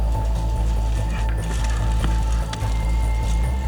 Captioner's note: bicycle clicking; heavy breathing; gunshots